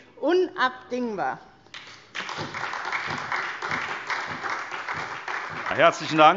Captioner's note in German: Beifall SPD